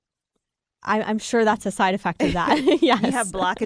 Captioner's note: laughs